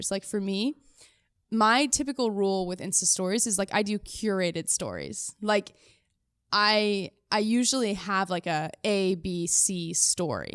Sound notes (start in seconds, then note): none